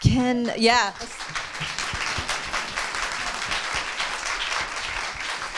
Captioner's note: audience applauding